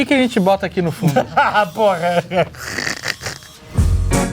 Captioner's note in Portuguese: risos